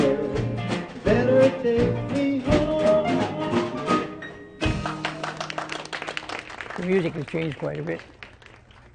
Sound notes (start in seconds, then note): 4.8 applause